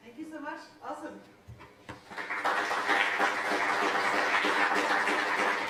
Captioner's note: applause